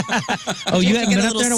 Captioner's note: laughing